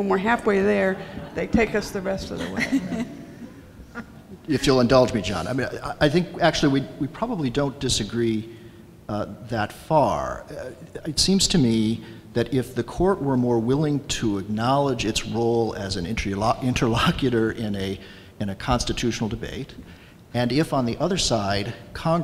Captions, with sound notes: When we're halfway there, they take us the rest of the way. (audience laughs) - If you'll indulge me John. I think actually, we probably don't disagree that far. It seems to me that if the court were more willing to acknowledge its role as an interlocutor in a constitutional debate and if on the other side